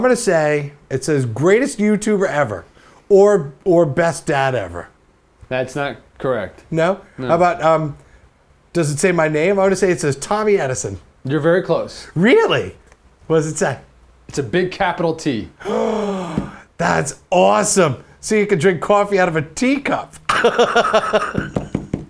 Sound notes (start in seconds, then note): 15.6 gasp; 20.2 laughs